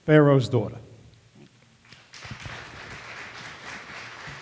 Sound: audience applause

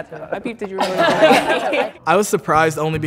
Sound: laughs

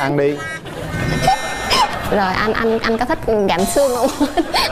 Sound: audience laugh

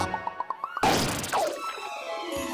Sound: popping

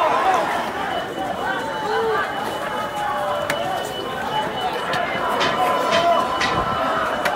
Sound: crowd yelling; alarms beeping

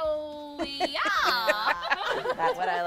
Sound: women laughing

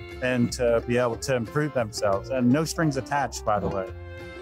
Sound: none

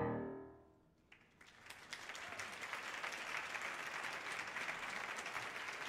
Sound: audience applauding

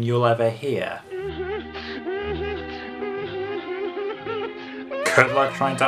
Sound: sobbing in time with music

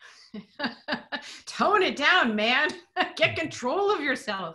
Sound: laughing

